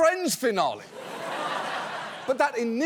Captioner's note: laughter